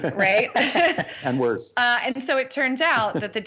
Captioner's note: laughter